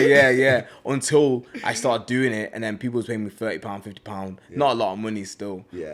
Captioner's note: laughs; laughs